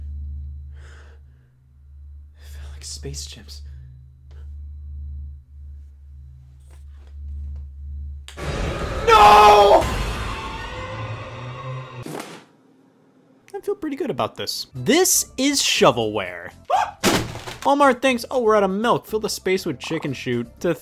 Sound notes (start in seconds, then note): 8.3 discordant music; 17.1 cases clattering